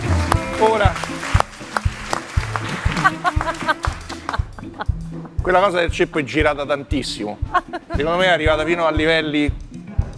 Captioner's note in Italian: Applauso